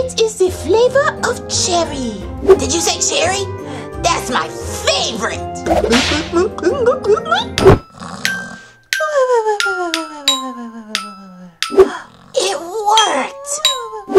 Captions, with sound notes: - It is the flavor of cherry. - Did you say cherry? That's my favorite! (gulping) (snoring) (lullaby music) - It worked!